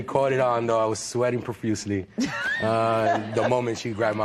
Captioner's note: laughter